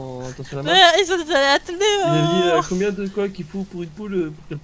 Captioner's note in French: je l'imite parler comme un dindon enrhumé